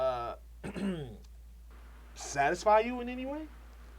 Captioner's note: clears throat